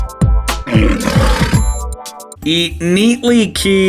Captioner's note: gentle music continues; lion roars; gentle music continues